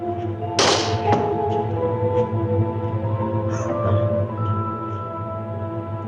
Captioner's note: suspenseful music continues; door snaps